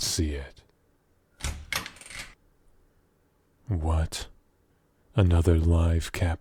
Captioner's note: door opens